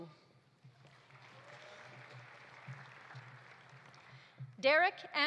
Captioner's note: audience applauding